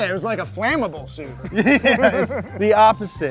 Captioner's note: laughing